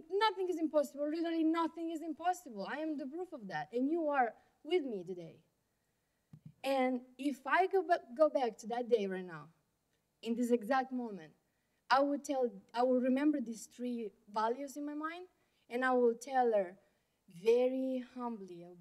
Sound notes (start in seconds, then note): none